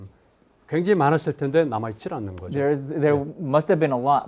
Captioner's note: speaking in Korean